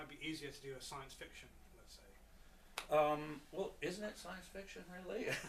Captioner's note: laughs